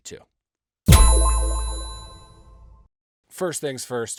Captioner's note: sharp tone echoing